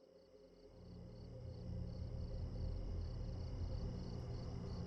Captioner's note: ominous music; crickets chirping